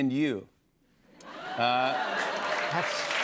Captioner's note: clapping